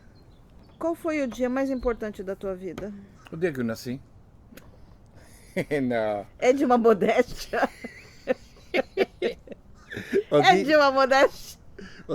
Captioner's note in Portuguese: risos